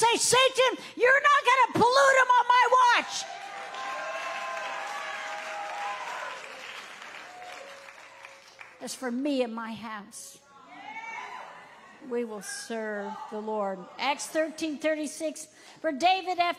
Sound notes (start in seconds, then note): 3.3 audience applauding